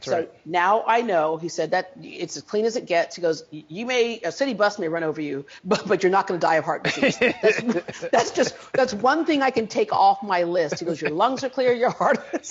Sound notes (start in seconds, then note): 6.8 interviewer laughs; 12.2 laughs